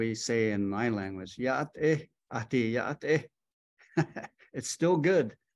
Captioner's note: speaking in Native language